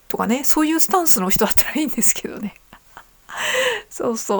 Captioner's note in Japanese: 笑い